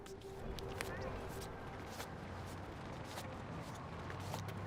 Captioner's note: stepping